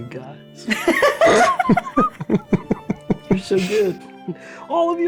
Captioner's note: players laughing